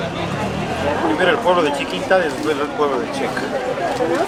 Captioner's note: in Spanish